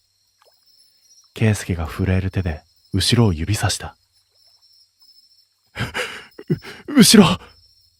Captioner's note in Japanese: 息をのむ音